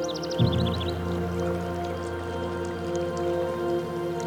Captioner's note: water trickling